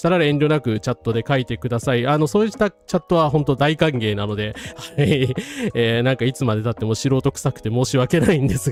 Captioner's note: laughs